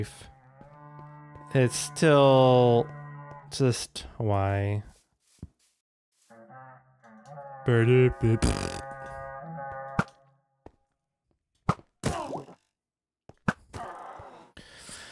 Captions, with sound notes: It's still... just why. [imitates a fart]